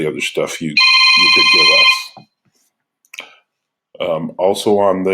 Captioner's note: phone rings